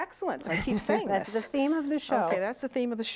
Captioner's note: laughter